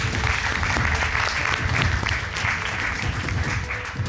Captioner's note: audience applauding